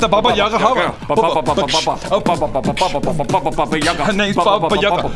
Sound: beat-boxing

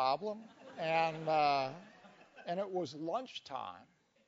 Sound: laugh

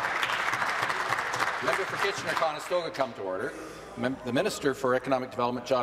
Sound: applause

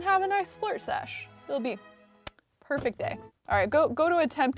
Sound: lips smacking

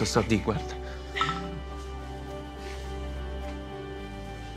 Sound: cell phone notification

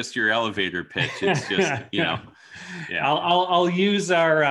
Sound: laughs

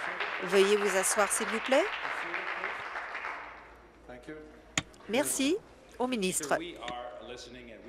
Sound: applause

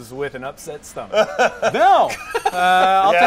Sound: laughter

